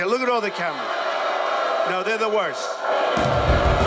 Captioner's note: crowd booing; rock music